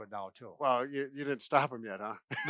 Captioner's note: laughs